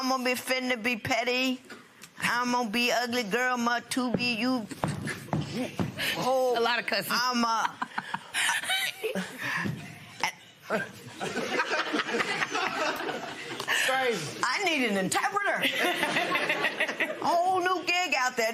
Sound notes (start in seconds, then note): 10.8 laughter; 15.6 laughter